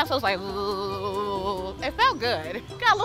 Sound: imitates engine

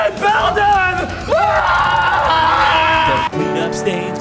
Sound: screaming together

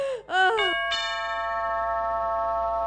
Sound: door bell rings

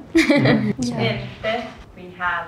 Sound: chuckles

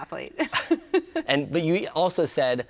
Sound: laughs

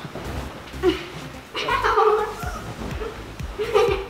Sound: laughing

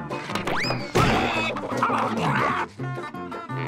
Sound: grunting

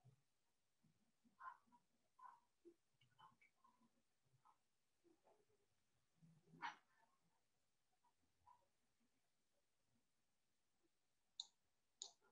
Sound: silence

